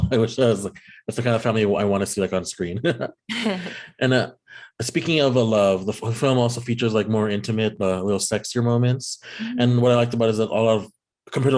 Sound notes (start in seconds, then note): 2.8 laughing